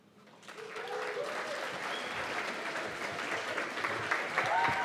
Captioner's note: cheers and applause